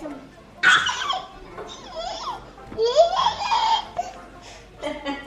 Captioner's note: babbles excitedly